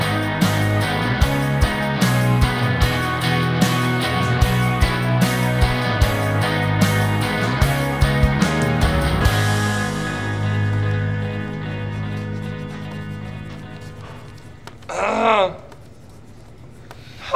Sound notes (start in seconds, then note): 0.3 somber music continues; 12.3 marker scratching; 14.8 clearing throat